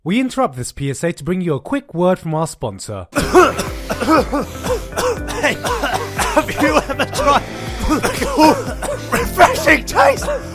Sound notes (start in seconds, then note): 3.1 sarcastically coughing; 6.0 cough; 6.7 cought; 8.3 cough